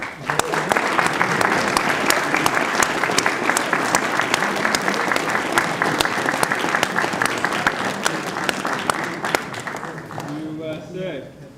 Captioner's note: applause